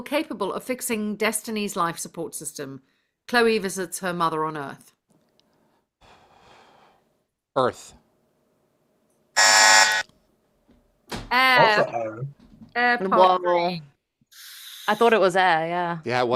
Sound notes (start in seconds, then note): 9.3 buzzer